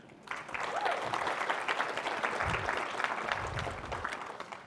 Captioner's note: audience applauding